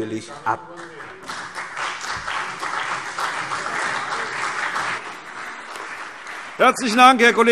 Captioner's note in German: Beifall CDU und BÜNDNIS 90/DIE GRÜNEN